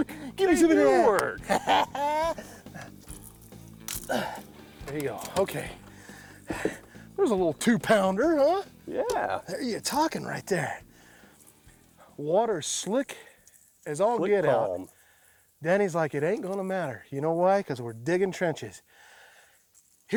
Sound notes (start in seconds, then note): 1.6 laughs